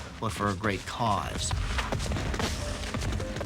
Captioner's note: guns firing